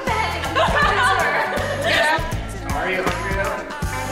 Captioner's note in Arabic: أمي تضحك